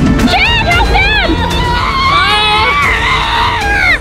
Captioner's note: screaming